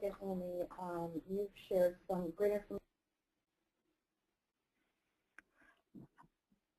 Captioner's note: audio goes silent